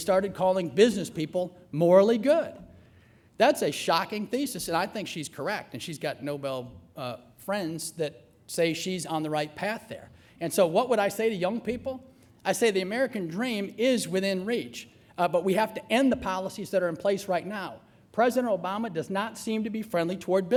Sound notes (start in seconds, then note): none